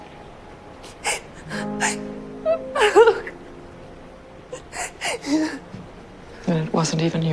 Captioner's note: Serena cries offscreen